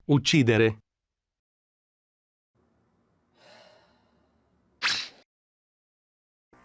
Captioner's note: sigh